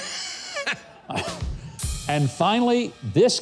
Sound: laughs; drum beats

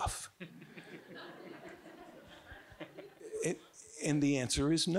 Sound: audience giggling

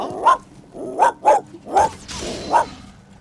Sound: more dog barking

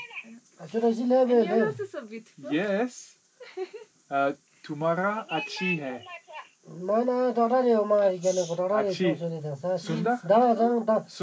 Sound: speaking in foreign language

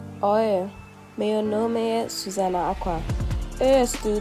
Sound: speaking Portuguese

